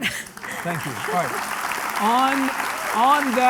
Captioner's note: audience applauding